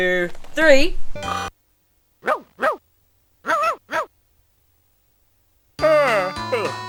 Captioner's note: Wags Barks